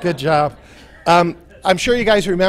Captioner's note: laughter